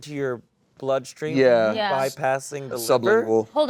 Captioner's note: sounds of agreement